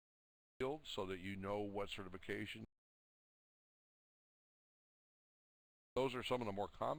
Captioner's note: audio drops; audio drops